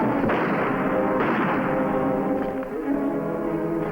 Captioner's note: gunfire blasting; suspenseful music